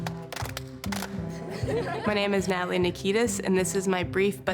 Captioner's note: laughter